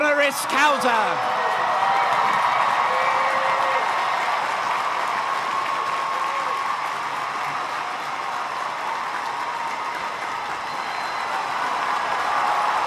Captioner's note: crowd cheering and applauding